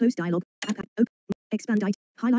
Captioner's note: application beeps